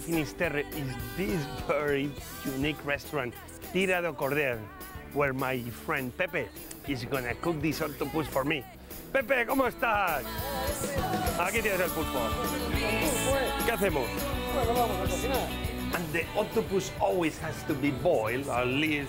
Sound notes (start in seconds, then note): 9.2 spanish